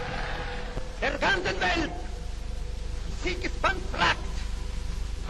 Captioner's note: Mussolini speaking German